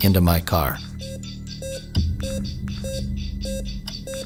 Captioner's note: beeps